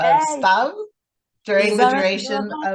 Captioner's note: singsong